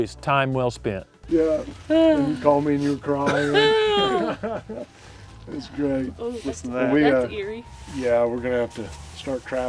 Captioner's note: laughter